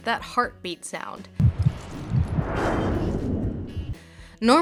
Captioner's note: heartbeat